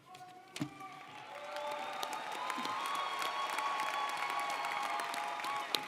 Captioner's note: audience cheering & applauding